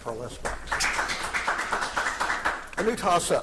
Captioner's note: audience applauding